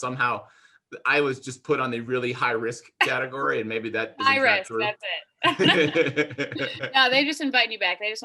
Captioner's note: both laugh